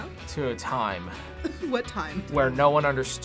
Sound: laughs

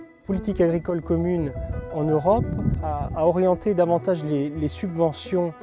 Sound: speaking in foreign language

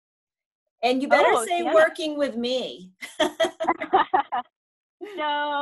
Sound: laughing

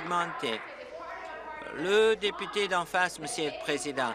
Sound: applause

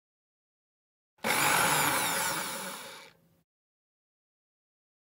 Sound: sound of blender motor

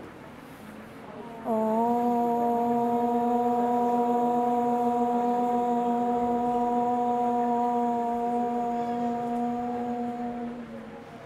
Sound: chanting

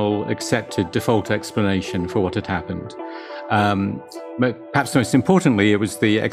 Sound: none

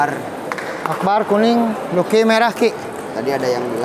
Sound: applause

